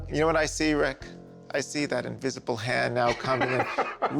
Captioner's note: laughs